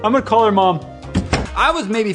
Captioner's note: door Slam